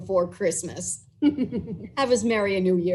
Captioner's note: laughs